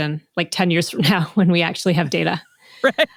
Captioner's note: laughs